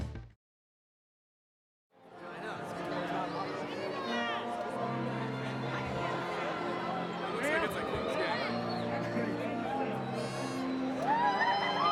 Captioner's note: crowd noise